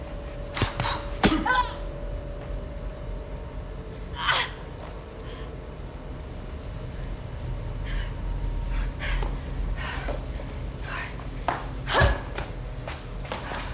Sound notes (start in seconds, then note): 0.5 fists thudding; 0.7 Riley grunting